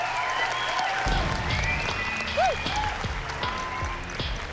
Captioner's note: applause and cheering